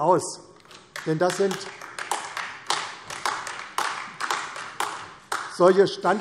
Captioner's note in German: Beifall AfD